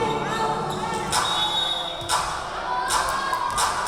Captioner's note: yelling; whistle blowing